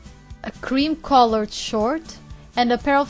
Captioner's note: none